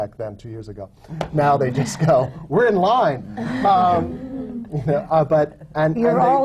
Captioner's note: laughter